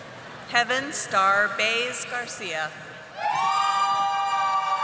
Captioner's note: audience applauding